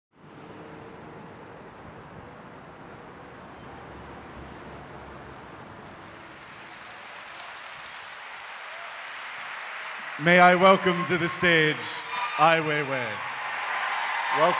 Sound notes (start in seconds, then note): 0.7 traffic humming; 5.9 applause